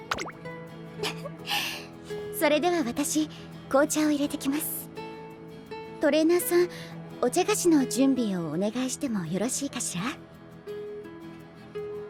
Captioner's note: laughs